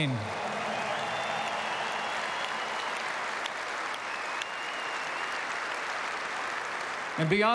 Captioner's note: applause